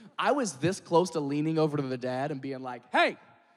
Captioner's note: none